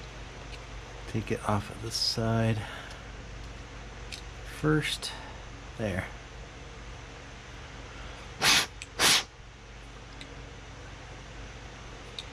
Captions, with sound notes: take it off of the side first there [blow blow]